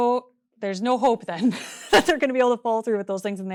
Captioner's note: laughs